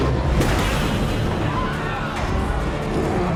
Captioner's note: roaring; screaming; roaring